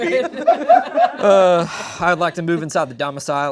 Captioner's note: all laughing